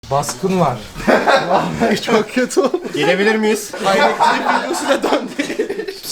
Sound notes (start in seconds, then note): 0.9 laughter